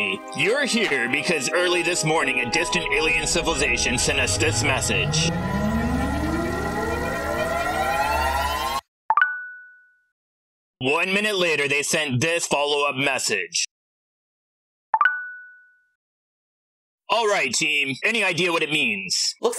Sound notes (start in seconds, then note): 5.4 advanced tech sounds; 9.1 smartphone notification sound; 14.9 smartphone notification sound